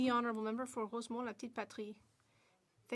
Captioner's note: speaking French